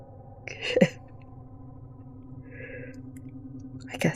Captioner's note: bitter laugh